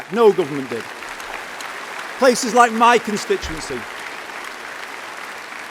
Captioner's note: applause